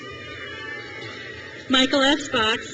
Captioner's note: crowd cheers